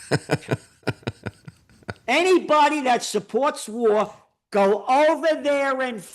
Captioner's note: laughing